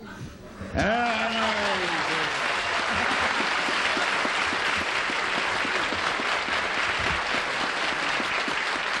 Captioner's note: applause